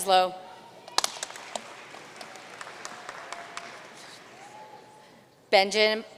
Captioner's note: audience cheering and applauding